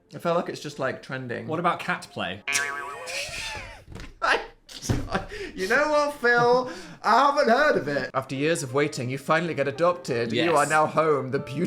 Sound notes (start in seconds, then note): 2.5 spring boinging; 2.5 Dan laughs